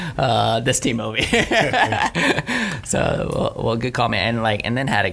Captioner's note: laughing